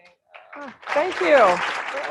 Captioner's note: applause